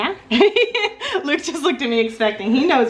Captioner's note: laughing